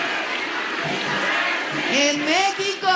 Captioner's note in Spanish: aplausos